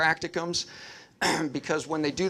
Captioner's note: clears throat